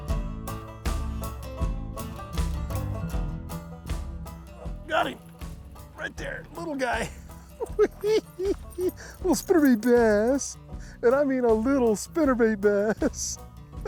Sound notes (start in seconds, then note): 7.5 laughs; 12.7 chuckles